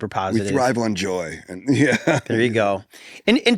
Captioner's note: laughs